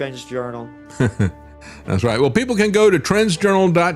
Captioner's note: laughs